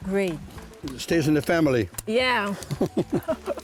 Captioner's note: firecrackers